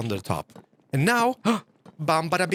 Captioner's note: gasps